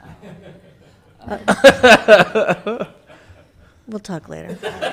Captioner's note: laughing